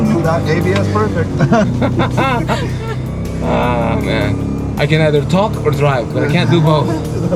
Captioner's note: laughter